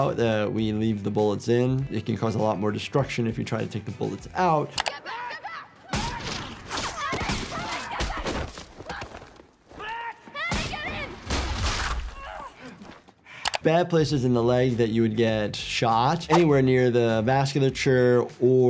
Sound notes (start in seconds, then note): 5.9 gun firing; 8.2 people screaming